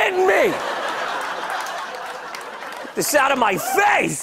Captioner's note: laughter